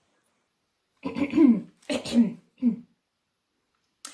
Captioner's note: clears throat